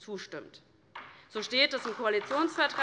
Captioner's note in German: Beifall DIE LINKE